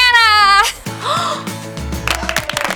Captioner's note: gasps; applause